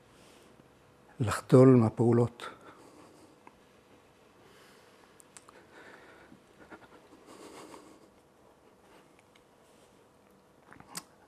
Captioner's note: silence